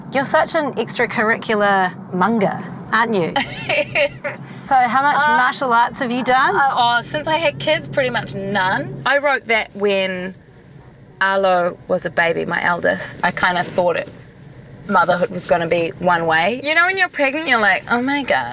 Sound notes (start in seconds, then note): 3.3 laughter